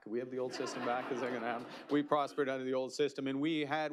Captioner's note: laughter